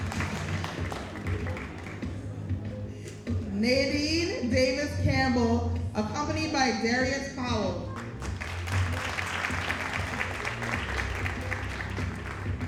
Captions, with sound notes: Nadine Davis Campbell, accompanied by Darius Powell. (audience applauding)